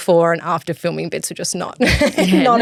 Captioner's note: chuckles